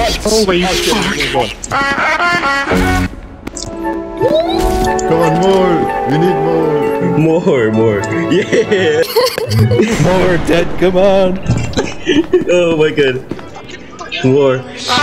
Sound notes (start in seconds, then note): 11.7 laugh